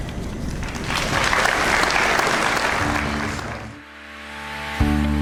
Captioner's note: audience applauds